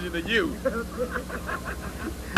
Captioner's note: laughter